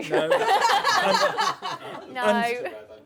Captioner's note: laughter